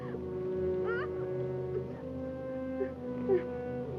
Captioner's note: Bonnie whimpering